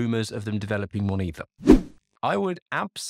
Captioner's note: air whooshes